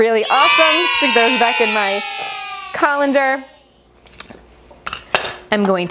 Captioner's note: applause